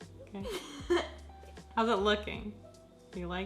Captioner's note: laughs